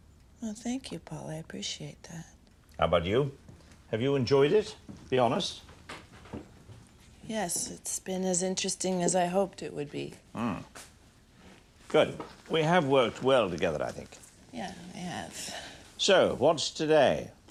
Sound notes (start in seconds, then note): none